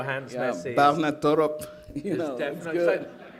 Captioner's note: laughter